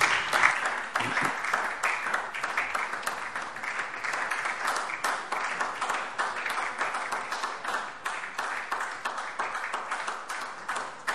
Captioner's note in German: Beifall SPD und vereinzelt DIE LINKE